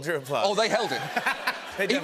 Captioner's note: laughter